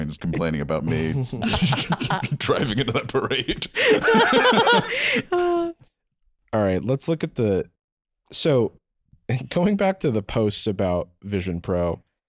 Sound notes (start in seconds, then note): 4.0 laughing